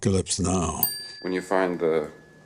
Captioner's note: bell dings